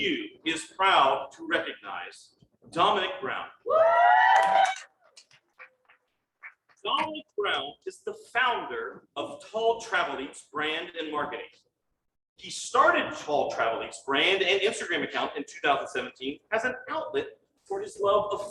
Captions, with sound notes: VCU is proud to recognize Dominic Brown. (cheering and applause) Dominic Brown is the Founder of TallTravelEats brand and marketing. He started the TallTravelEats brand and Instagram account in 2017 as an outlet for his love